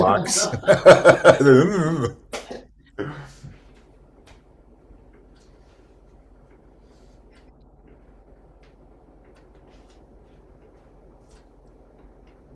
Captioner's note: laughs